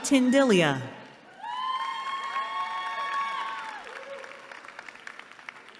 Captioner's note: cheering